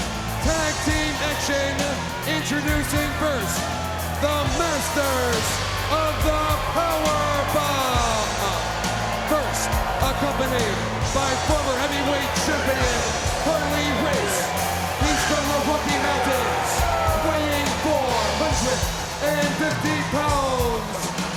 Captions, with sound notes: Tag team action. Introducing first, the Masters of the Powerbomb! (rock music plays) (crowd boos) First, accompanied by former heavyweight champion Harley Race, he's from the Rocky Mountains, weighing 450 pounds, WCW Champion Big Van Vader!